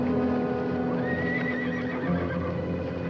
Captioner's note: whinnying